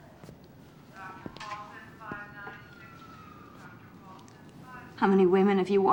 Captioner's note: announcement on the p.a